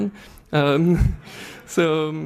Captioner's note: laughs